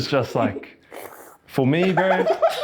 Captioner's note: slurrrrrp